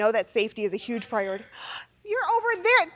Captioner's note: person speaking off mic